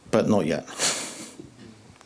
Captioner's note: laughs